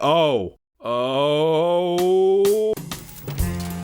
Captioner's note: pitches voice in giddy excitement